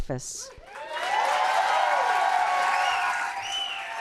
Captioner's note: cheers and applause